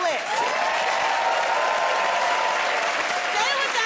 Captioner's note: cheers and applause